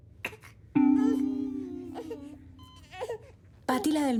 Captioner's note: baby crying